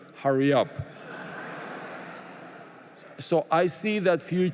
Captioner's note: laughter